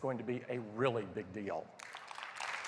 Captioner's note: applause